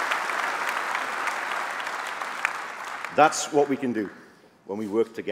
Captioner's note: applause